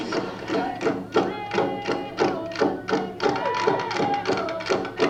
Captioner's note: banging on drums; chanting